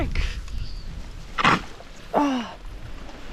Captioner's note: squelch